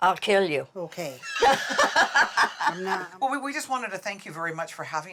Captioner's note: laughter